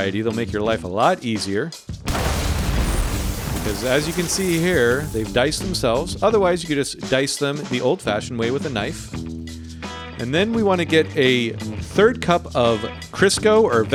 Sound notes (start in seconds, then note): 2.0 explosion bangs